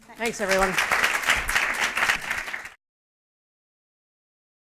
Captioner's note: applause